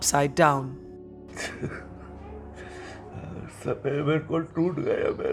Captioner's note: sobbing